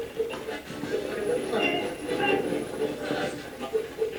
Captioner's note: radio voices